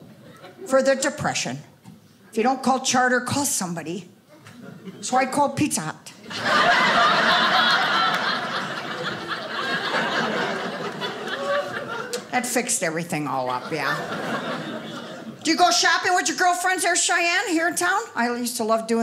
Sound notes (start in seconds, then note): 6.2 audience laughing